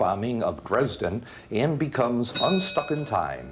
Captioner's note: bell dings